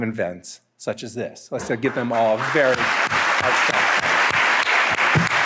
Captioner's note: applause